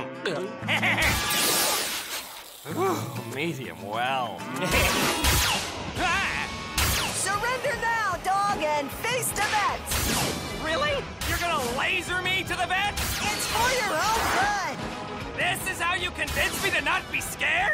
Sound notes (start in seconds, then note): 0.3 laser blasts, dukey sniffs; 4.7 laser blasts